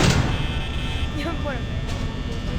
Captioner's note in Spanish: Entre risas